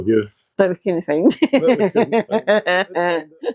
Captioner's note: laughs